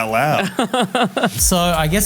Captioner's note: laughing